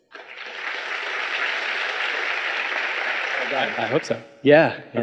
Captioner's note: audience applauding